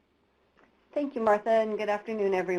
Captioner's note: voiceover